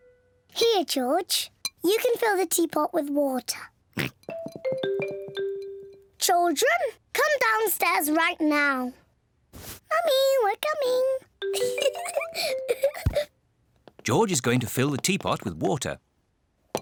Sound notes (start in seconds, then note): 3.9 oinks; 11.5 giggles